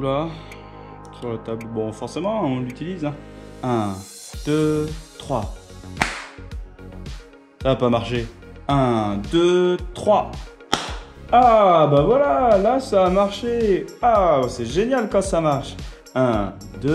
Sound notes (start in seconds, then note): 5.9 clap of hands; 5.9 clap of the hands